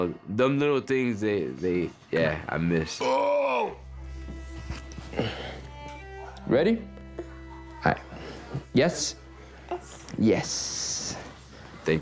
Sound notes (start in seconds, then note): 3.0 grunts